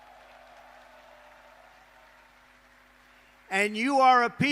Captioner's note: applause